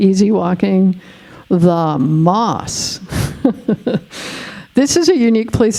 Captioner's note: laughing